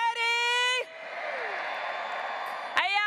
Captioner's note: graduates cheering